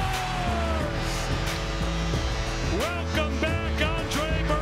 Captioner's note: crowd cheering; vibrant music